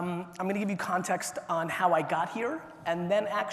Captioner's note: none